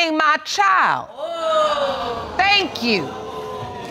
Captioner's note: audience exclaiming